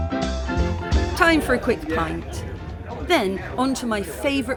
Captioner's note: background chatter